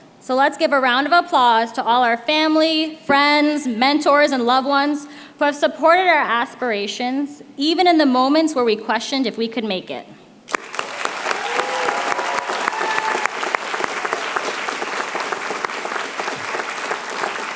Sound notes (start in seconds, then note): 10.4 applause